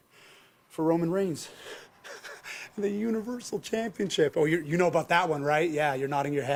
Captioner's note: laugh